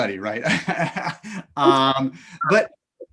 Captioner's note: laughter